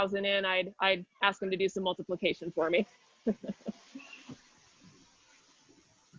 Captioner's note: chuckles